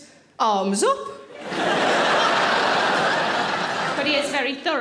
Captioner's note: audience laughing